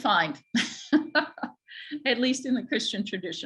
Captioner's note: laughs